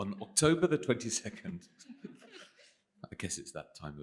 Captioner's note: laughter